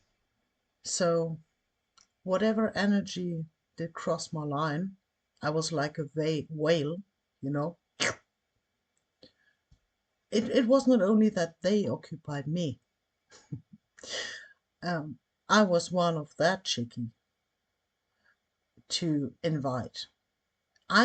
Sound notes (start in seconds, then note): 8.0 slurpnoise